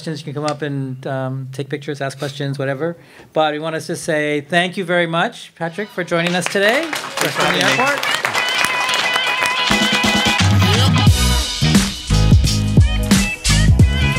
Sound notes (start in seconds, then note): 6.1 crowd applause; 9.1 music outro